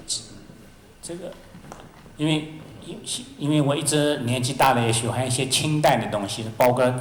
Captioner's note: Mandarin